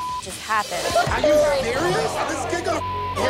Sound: sobbing

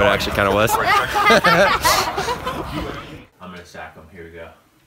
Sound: laughs

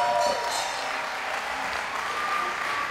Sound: bell rings

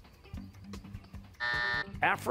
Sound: buzzer

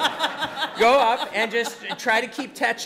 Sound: audience laughing

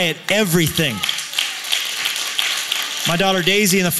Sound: applause

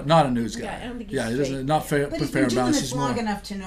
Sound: voiceover

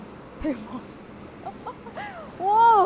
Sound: argh hahaha

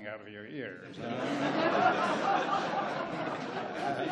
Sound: laughs

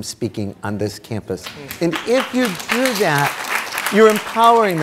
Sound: audience clapping

